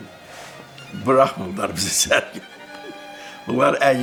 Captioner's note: laughs